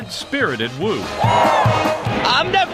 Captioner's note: crowd